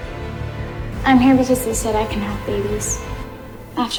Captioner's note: voiceover